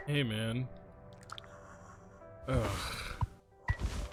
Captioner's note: Curly breathes